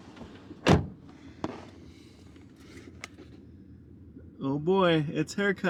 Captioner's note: car door closes